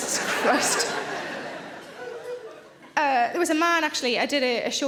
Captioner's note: audience laughing